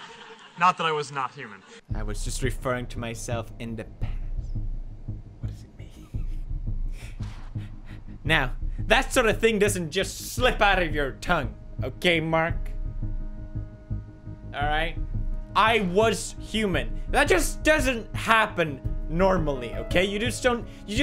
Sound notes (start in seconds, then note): 3.8 quietly